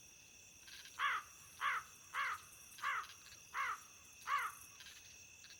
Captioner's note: crow Cawing